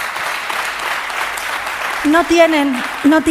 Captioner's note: applause